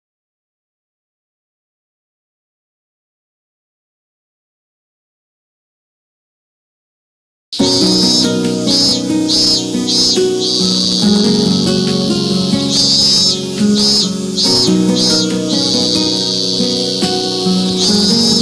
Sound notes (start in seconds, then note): 9.0 yawning